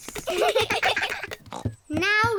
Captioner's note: all giggle; snorts